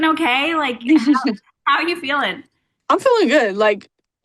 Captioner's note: Paige laughing